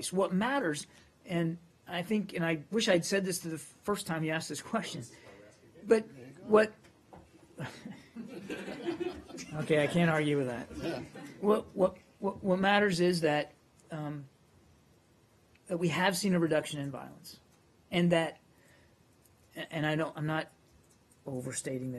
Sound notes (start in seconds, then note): 10.7 laughter